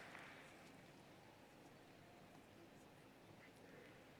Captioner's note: applause